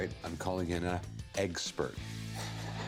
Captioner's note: laughs